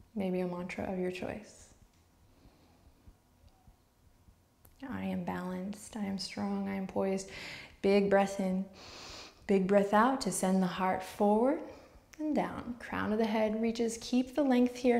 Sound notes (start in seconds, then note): 8.8 inhales